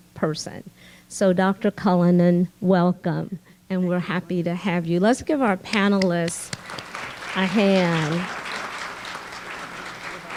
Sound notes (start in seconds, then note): 7.9 clapping